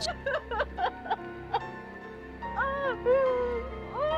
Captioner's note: sobbing